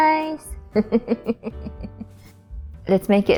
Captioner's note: chuckles, Music